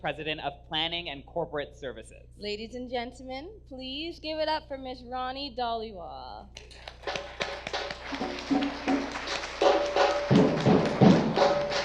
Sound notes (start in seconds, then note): 6.6 audience applause; 6.6 drumming begins